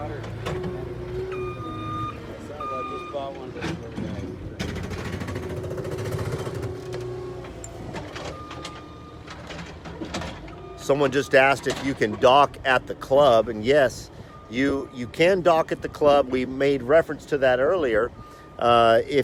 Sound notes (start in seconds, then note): 0.0 background chatter; 4.5 machine rumbling sounds